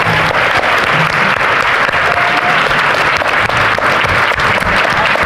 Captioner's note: audience applauding